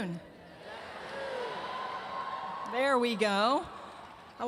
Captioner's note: crowd